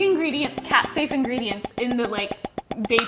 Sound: bubbles popping

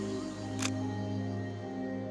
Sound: camera clicks

